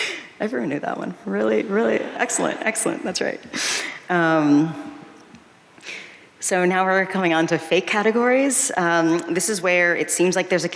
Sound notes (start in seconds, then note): none